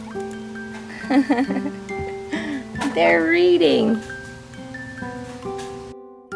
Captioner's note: laughing